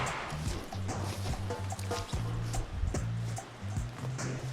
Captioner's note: footsteps crunching